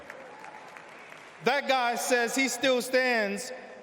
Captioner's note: applause